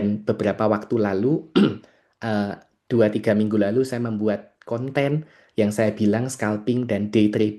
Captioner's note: berdehem